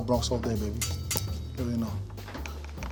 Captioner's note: bell dinging